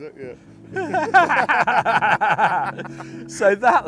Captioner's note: both laugh